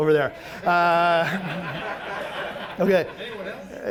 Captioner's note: audience laughing